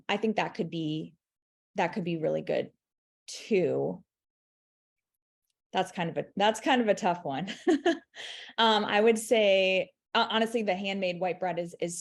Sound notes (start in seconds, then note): 7.6 chuckling